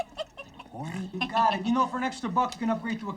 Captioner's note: Lana laughing and snorting